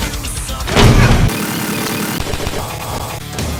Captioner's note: sounds of war